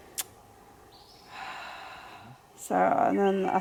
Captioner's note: heavy sigh